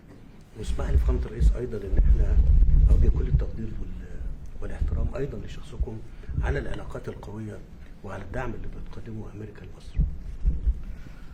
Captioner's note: speaking foreign language